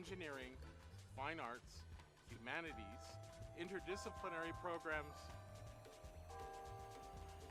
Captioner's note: bell rings loudly